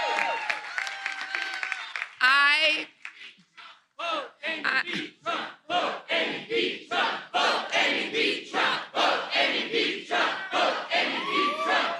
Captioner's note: cheers and applause